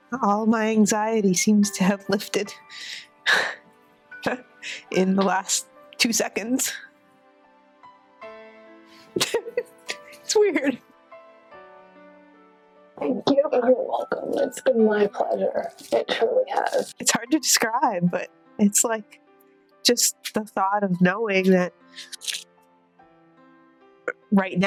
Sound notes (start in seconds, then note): 9.2 laughing